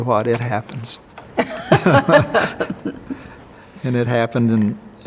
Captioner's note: they laugh